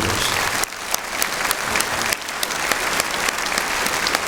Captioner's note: applause